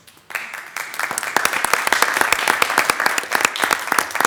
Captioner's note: attendees applauding